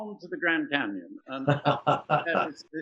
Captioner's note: laughs